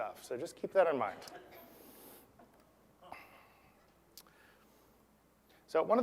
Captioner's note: laugh